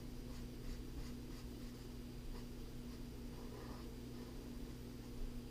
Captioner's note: pen writing on paper